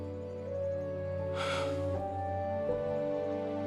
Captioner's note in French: soupirs